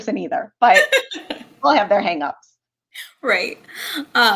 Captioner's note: laughter